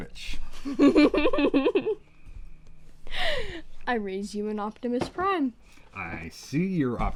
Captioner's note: laughs